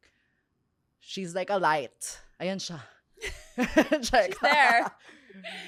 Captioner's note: laughs